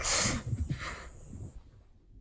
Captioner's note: Chuck sniffs